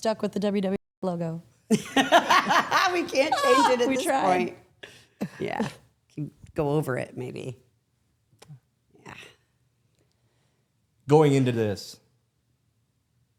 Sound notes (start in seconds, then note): 5.2 laughs